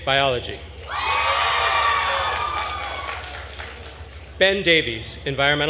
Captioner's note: attendees cheering and applauding